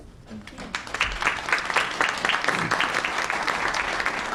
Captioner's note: applause